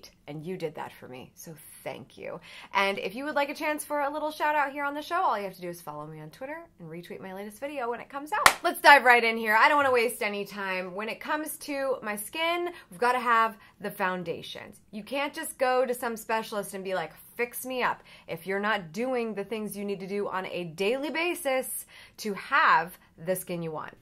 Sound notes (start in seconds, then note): 8.4 claps